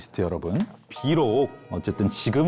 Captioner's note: in a gentle, calming tone